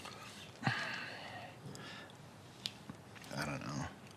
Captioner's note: sighs